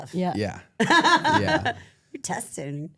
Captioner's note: laughs